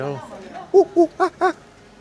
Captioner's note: monkey sounds